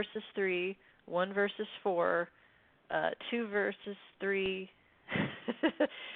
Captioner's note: laughs